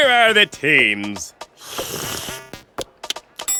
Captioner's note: slurps, smacks lips